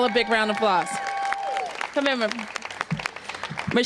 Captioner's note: applause